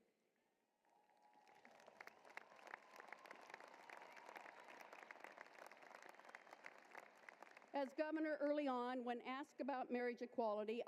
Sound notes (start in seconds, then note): 0.9 applause